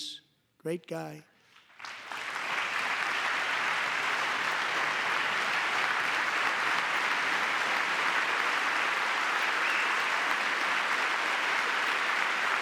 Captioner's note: applause